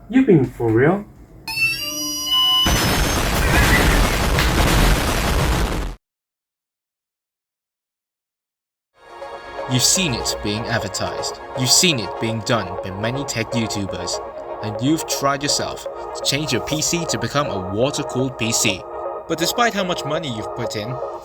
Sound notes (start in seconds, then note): 2.6 explosion; 2.6 explosion x3; 2.7 explosion x2; 4.4 multiple explosions